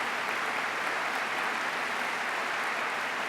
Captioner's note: applause